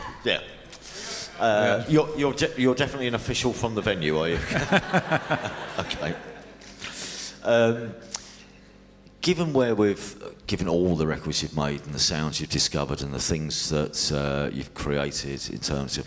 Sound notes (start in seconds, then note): 3.8 laughter